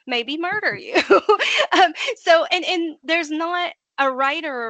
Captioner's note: laughing